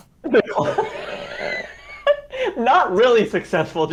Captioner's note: laughs